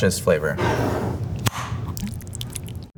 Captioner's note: jar sliding; lid opening; salsa pouring